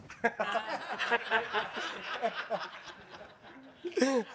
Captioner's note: everyone laughing